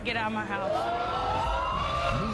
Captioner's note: audience exclaiming